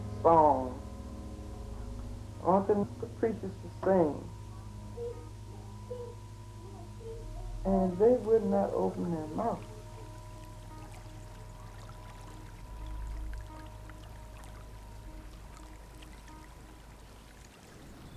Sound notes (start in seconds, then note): 11.6 calm music; 11.6 water lapping